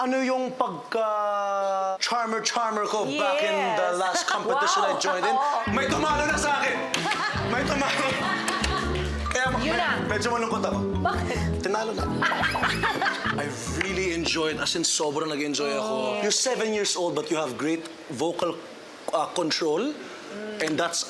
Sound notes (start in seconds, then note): 6.9 laughter; 12.2 laughter